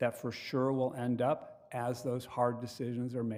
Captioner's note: none